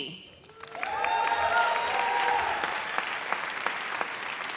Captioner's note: audience cheers